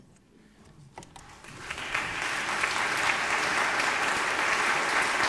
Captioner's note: audience applauding